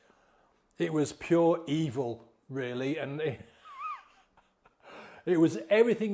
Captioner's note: laughs softly